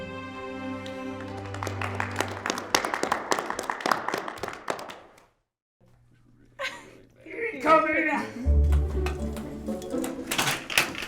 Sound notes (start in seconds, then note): 0.8 applauding; 8.4 upbeat music